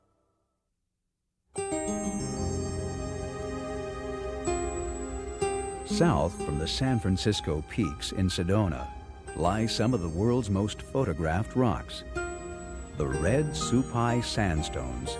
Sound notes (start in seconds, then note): 1.8 light orchestra music; 6.1 voiceover